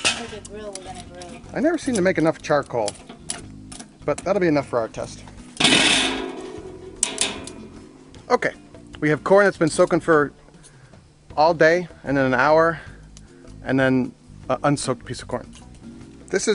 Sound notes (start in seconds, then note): 5.6 grill clangs